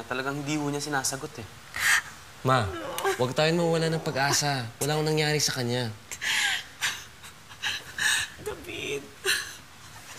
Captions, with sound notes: He isn’t answering. -[David's mom cries] -Mom, let's not lose hope. Maybe nothing happened to him. [cries] David.